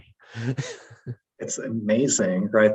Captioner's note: chuckles